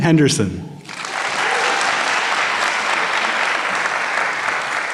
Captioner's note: applause